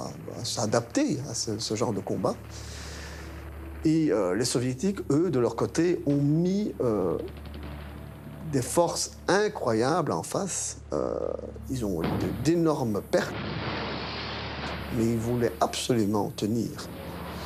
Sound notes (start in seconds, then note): 13.1 explosion booms